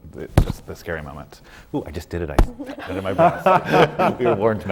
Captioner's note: bangs his microphone